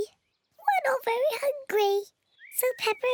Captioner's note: in squeaky voice